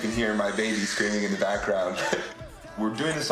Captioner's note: Risos